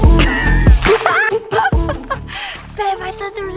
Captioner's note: laughing